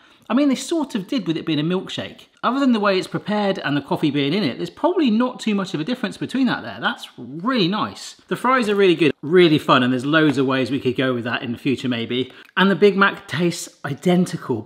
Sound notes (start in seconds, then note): none